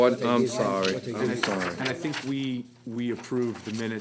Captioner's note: general conversation